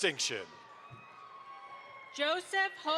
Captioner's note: audience applauds